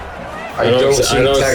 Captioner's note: crowd Noises